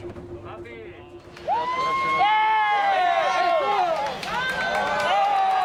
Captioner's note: crowd cheering